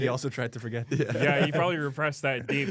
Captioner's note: laughs